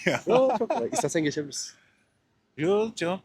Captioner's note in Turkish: kahkaha